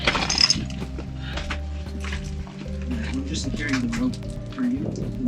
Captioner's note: shale jingling